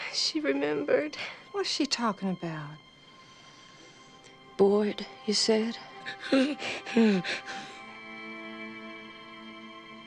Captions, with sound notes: - She remembered. - What is she talking about? - Boyd you said? (Lilly panting)